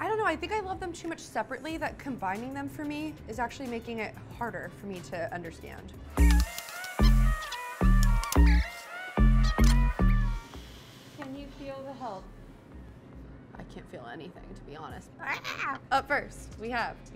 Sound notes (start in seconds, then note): 6.1 upbeat music; 15.2 shrieking